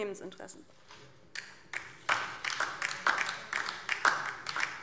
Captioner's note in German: Beifall DIE LINKE